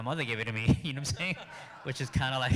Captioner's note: audience laughing